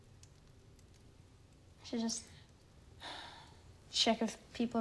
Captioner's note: sighing